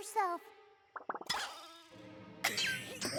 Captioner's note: warble! boing!; coughing